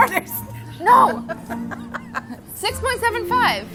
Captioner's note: laughter